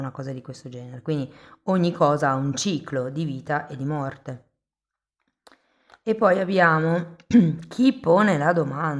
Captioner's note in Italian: schiarire la voce